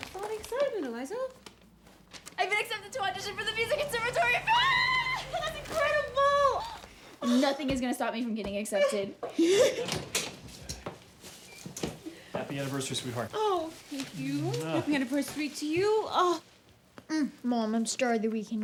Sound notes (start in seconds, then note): 5.0 mom yells happily; 9.3 Mom laughs